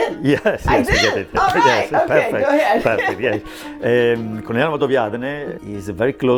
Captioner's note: laughs